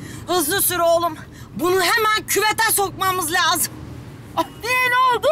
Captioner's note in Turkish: none